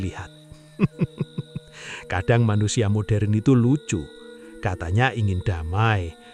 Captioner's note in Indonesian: tertawa